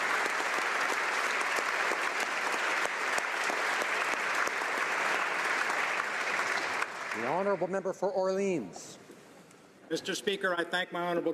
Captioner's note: applause